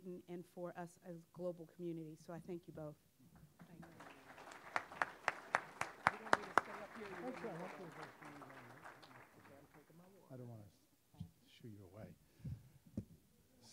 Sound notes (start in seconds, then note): 3.7 audience applauding